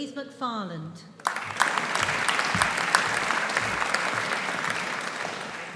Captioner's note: audience applauding